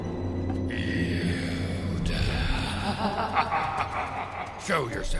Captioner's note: menacing laughter